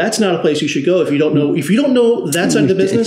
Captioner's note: laughs